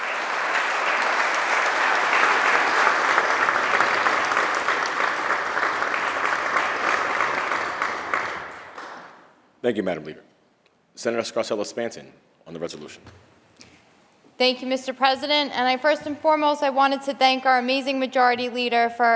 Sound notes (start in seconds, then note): 2.0 applause